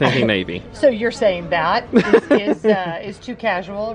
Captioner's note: laughing